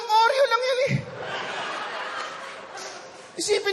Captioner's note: laughter